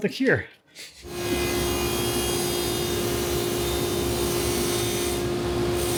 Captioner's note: electric saw whirring